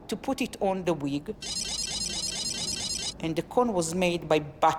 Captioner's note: video game beeps